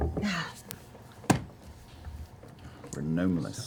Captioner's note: sighs